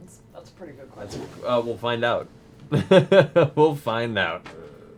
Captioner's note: laughs